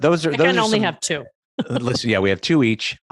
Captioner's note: laughs